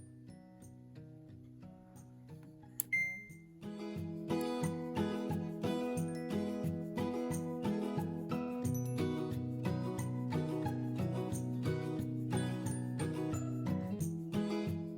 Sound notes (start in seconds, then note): 2.8 beep